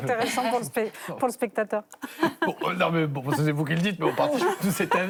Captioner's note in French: rires